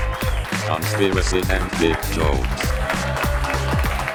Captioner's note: robotic Voice; audience clapping